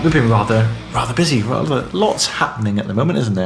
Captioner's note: none